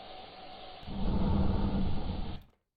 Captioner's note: breathing